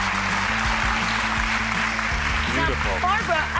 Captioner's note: crowd clapping